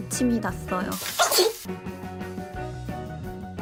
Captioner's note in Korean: 에취!